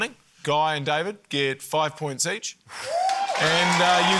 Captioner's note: exhales; cheering, applause